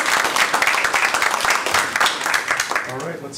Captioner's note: applause